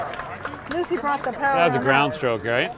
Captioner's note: audience applauding